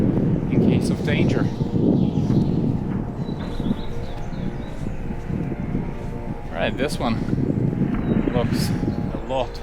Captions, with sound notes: in case of danger. (air whooshing) All right, this one looks a lot newer.